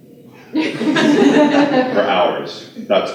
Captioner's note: laughter